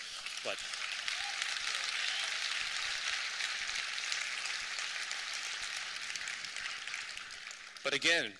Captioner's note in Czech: potlesk